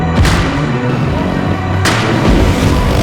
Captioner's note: engine revving